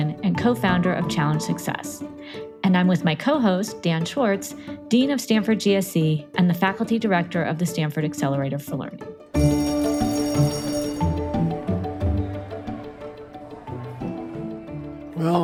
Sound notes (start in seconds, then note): 9.3 bell rings; 11.9 students chatter faintly